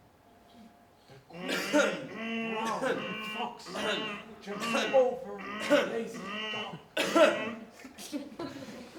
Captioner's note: coughs